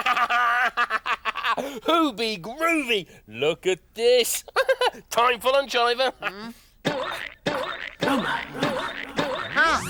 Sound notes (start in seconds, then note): 0.4 laughs; 4.4 laughs; 6.4 hammer banging